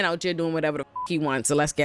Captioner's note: beep